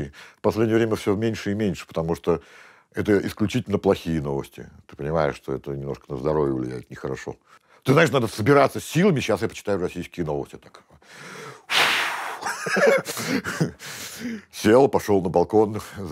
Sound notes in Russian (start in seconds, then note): 11.1 резко выдыхает; 12.3 смеется